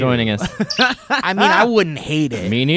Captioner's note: laughing